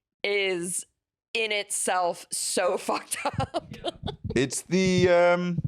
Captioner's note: laughs